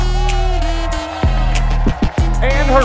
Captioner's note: crowd cheers